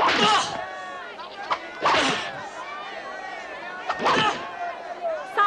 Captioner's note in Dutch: geluid van de zweep